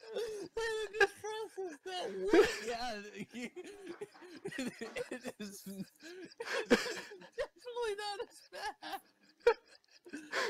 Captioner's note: laughing; still laughing; laughing while talking; laughter continues